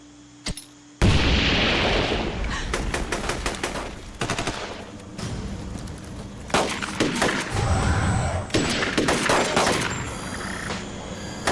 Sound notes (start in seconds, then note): 1.0 explosion; 2.6 gunfire